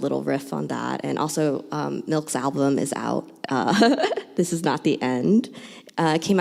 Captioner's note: laughs